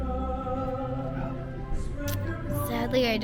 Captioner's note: whispers